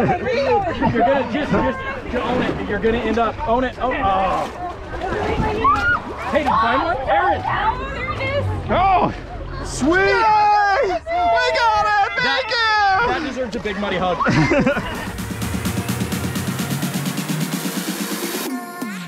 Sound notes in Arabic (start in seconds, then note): 14.0 يضحك; 14.7 موسيقى إلكترونية مبهجة